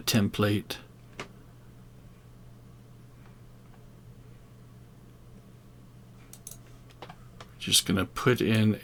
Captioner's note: silence